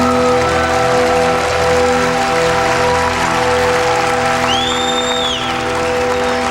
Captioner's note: crowd cheering